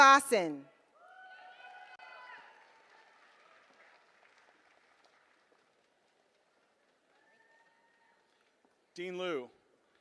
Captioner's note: applause